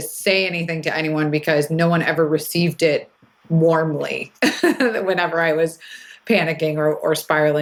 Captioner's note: laughs